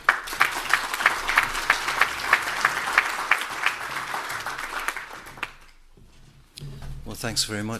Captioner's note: applause